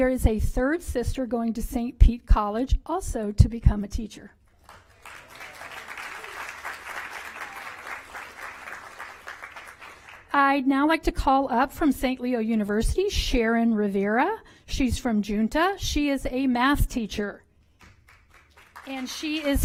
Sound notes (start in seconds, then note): 10.5 applause